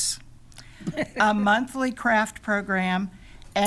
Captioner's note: laughing